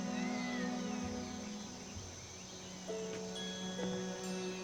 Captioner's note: cats mewing